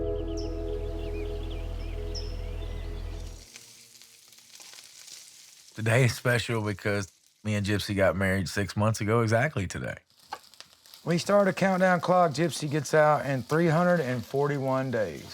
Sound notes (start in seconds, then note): 0.0 birds twittering; 3.0 food sizzling